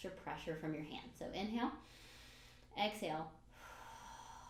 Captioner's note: breathes in; breathes out